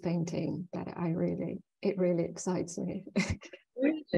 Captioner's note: chuckling